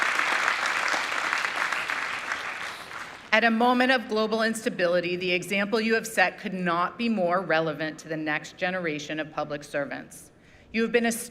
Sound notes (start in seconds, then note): 3.9 applause